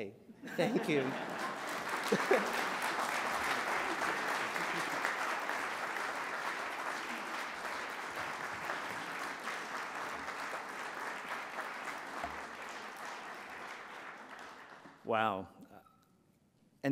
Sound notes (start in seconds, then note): 0.7 applause